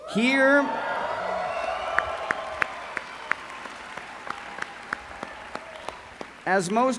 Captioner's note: applause